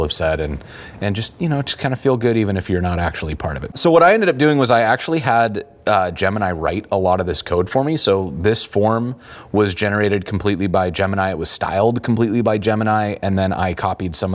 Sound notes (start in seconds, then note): none